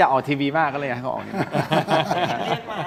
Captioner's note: laughs